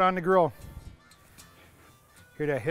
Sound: sizzling

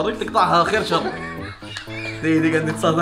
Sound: laugh

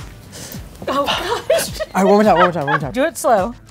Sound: laughs

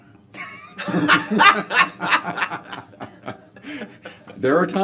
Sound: laughter

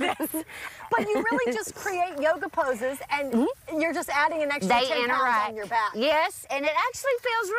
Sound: laughter

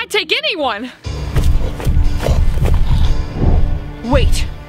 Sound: loud stomping

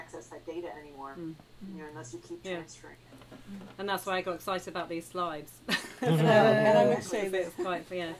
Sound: laughter

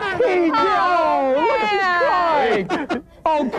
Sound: laughing

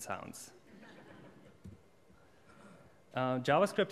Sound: audience laughs

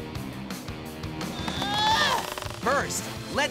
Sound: grunting

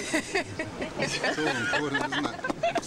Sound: laughs

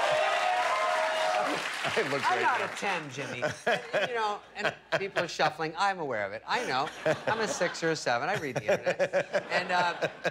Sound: applause

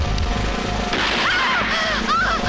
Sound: gunshot

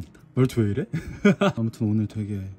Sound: laughing

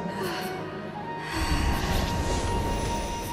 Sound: exhales

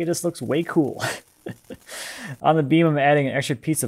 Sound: laughing

